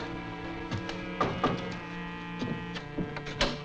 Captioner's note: knocking